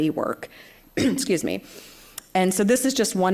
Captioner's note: coughs